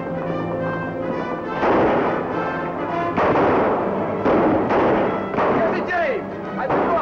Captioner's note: gunshots